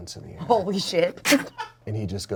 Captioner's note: laughs; crew member laughs